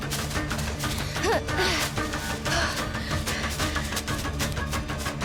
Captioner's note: Anya pants; slow dramatic music continues